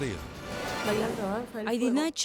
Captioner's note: speaking in Spanish